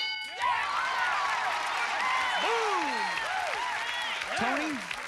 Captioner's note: cheers